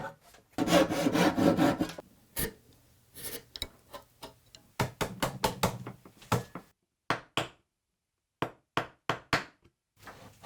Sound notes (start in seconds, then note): 0.6 slow sawing; 2.5 wood scratching; 5.0 gentle tapping; 6.3 gentle hammering